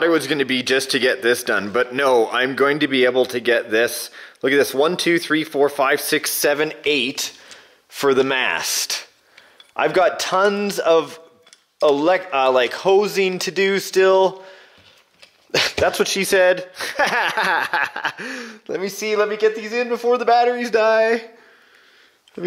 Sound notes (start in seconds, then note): 16.8 laughs